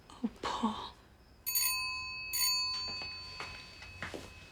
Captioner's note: doorbell ringing